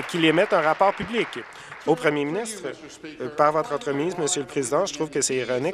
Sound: applause

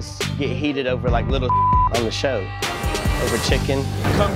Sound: beep

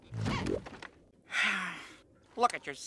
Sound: heavily Sighs

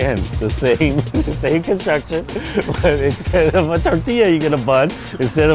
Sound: laughs

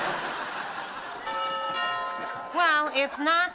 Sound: doorbell rings

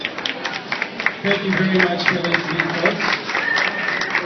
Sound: applause

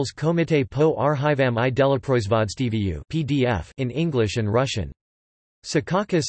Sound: in English and Russian

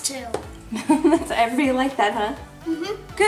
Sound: laughing

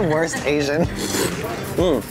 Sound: slurps soup

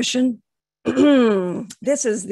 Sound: coughs

